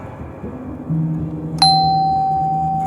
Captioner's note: slow doorbell